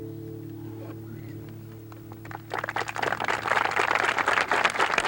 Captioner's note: audience applauds